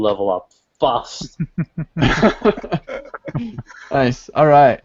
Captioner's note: laughter